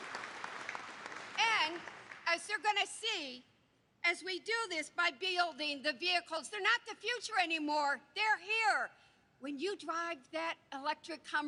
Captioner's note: applause